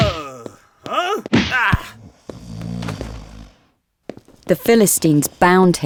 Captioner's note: Samson yelling; snores